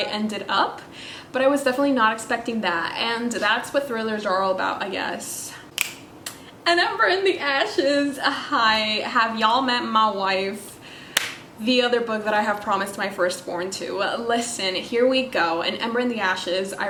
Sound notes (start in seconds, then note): 5.7 snaps